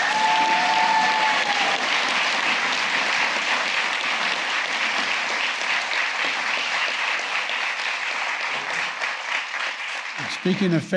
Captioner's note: applause